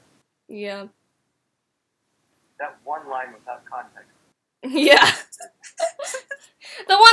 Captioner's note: laughing